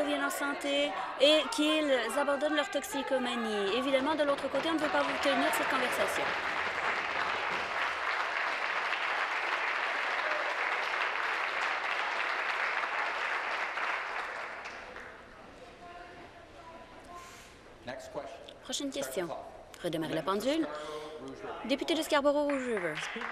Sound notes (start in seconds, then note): 12.9 some Applause